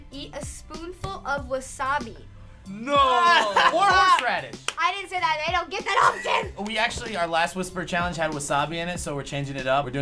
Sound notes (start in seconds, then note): 3.1 laughs